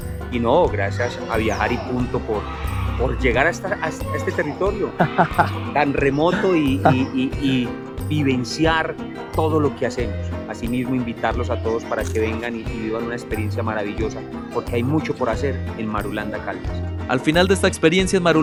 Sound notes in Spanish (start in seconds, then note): 4.8 risas